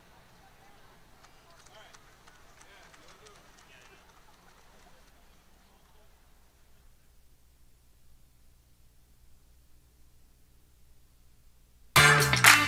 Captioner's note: applause